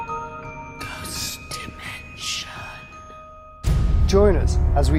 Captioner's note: ghostly Voice